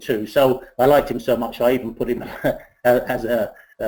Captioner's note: laughs